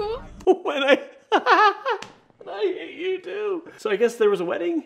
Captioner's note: laughs